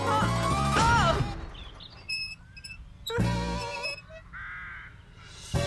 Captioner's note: wheels Squeak